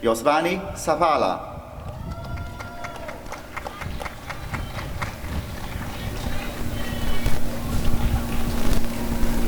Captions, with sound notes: Yosvany Zavala [applause and cheering]